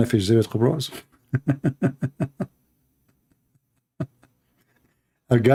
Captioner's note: Ketawa